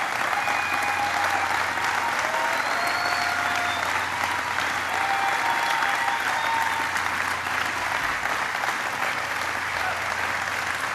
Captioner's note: applause